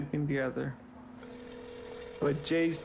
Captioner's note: phone ringing